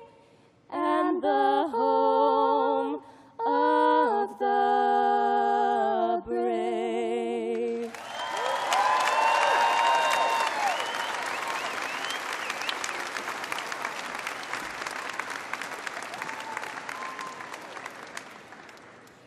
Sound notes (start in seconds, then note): 1.0 cheers and applause